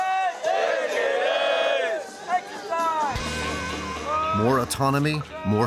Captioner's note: cadets yelling